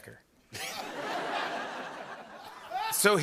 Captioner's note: laughter